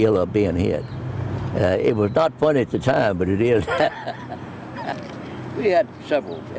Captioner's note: laugh